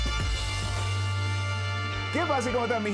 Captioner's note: upbeat music; speaking in foreign language